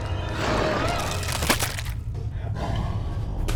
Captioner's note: wet crunching noises